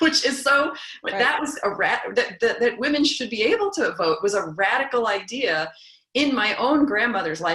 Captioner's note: laugh